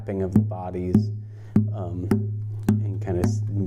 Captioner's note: tapping on guitar